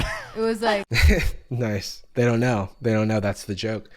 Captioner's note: laughs